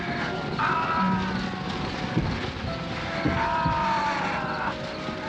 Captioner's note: ghouls screaming